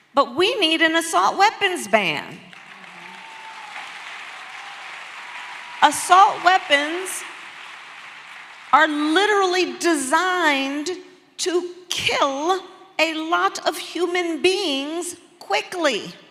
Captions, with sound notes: but we need an assault weapons ban. (Applause) Assault weapons are literally designed to kill a lot of human beings quickly.